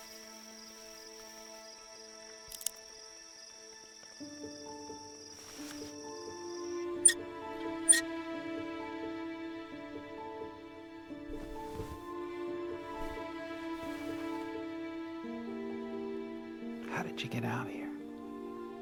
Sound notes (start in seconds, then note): none